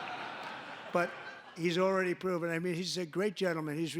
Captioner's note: laughter